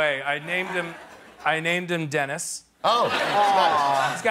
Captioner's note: laughter